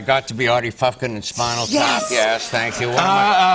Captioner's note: cheers and applause